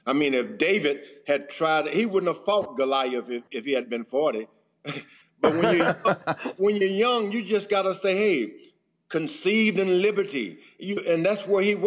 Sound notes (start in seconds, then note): 5.4 laughter